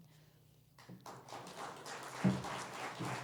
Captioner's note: applause